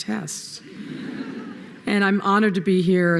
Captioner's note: laughter